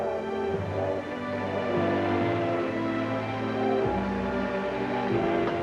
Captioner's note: train whistling; crowds applauding